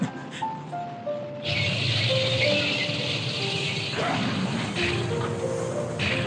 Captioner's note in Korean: 탱크의 요란한 캐터필러 소리